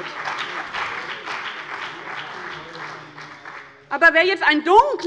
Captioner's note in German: Beifall bei dem BÜNDNIS 90/DIE GRÜNEN und der CDU